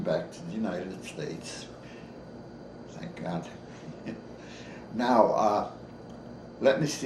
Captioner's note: chuckles